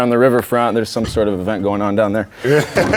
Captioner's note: laughing